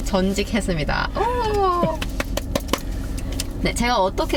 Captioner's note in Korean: 박수